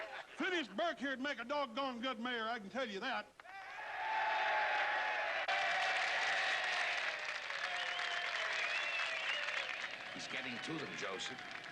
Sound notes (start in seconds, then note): 3.4 cheering